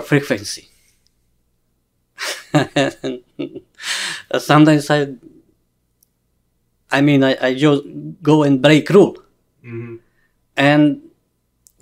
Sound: laughs

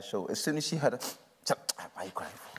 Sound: sniffs

